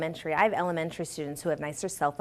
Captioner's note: none